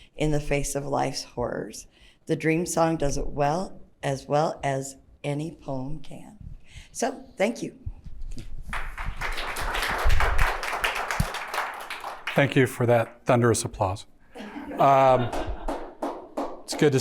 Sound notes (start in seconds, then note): 8.7 audience applauding; 14.4 audience laughing